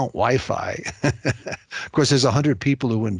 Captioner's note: laughing